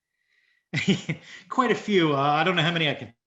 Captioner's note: chuckles